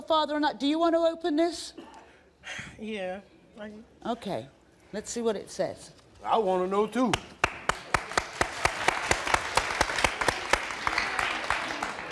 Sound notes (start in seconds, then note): 7.3 audience applauding